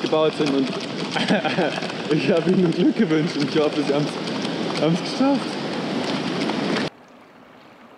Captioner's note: laughs